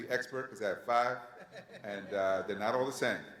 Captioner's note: panelists laugh